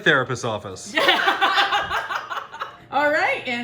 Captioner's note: laugh